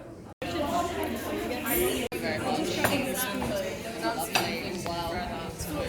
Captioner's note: conversation noises and cutlery clanking